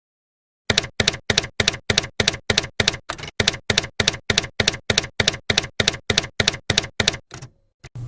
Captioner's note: typewriter keys clacking